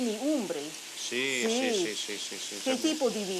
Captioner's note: speaking Italian; speaking Italian